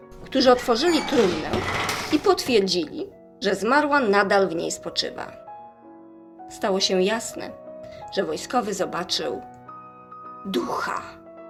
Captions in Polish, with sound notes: którzy otworzyli trumnę i potwierdzili, [skrzypienie] że zmarła nadal w niej spoczywa. Stało się jasne, że wojskowy zobaczył ducha.